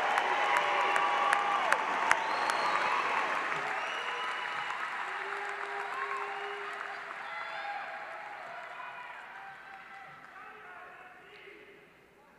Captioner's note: applause